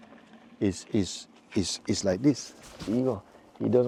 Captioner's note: mimics clinging